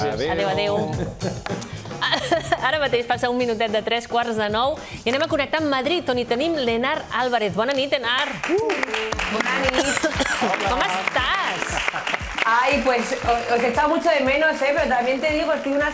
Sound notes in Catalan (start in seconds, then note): 10.9 aplaudiments